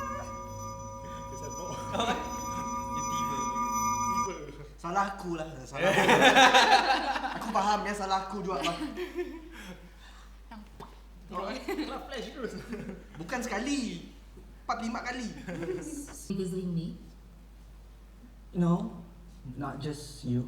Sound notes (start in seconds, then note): 5.9 everyone laughs